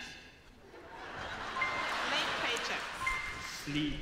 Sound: audience laughs

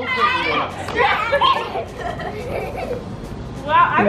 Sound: kids chanting

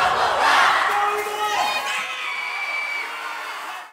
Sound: crowd Cheering

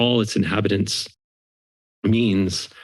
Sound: silence

